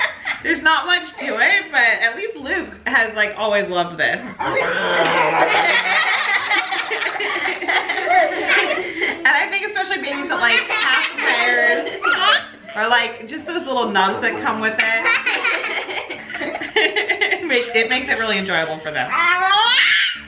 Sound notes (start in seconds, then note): 0.0 laughs; 4.4 everyone laughs; 14.8 everyone laughs